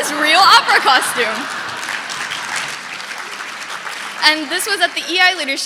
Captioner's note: audience laughing; audience clapping